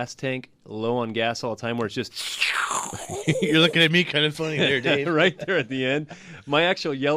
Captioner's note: slurping noise; laughs